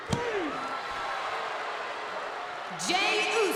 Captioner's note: crowd cheers